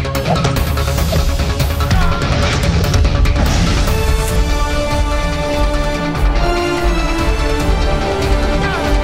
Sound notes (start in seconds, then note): 2.4 blasting; 2.4 whooshing; 3.9 dramatic music